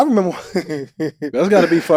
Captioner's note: Cuttino laughing